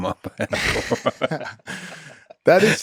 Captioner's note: both laughing